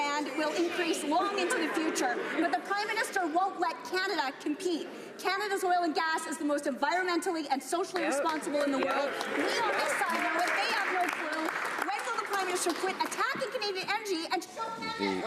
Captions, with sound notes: UP AND THESE LIBERALS ARE LAUGHING ABOUT IT TODAY. THE PRIME MINISTER WON'T LET CANADA COMPETE. CANADA'S OIL AND GAS IS THE MOST ENVIRONMENTALLY AND SOCIALLY-RESPONSIBLE IN THE WORLD. [ Some Applause ] THEY HAVE NO CLUE.